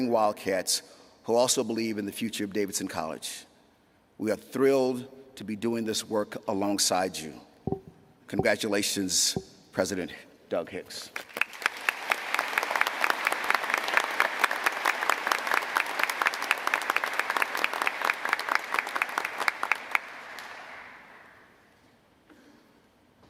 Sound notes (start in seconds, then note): 11.1 applause